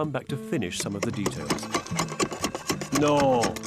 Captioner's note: metal clanking